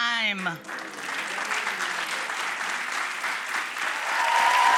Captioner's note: applause